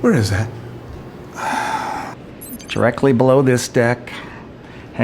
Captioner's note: sighs